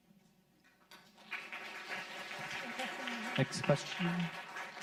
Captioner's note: audience clapping